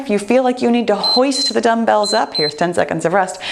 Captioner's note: timer beeps